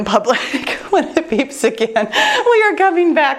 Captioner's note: laughs